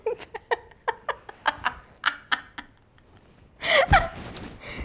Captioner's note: laughs